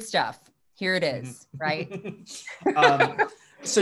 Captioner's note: laughs